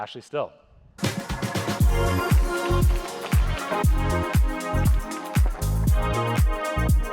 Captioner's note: audience applauds; upbeat music